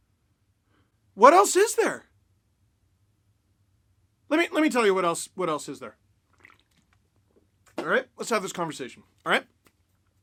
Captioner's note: beer sip